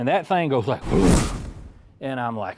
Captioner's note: swoosh